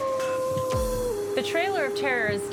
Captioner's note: wolf howling